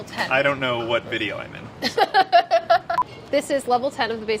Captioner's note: laughs